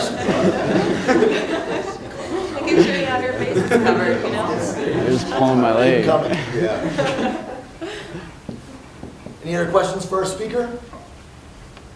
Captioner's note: applause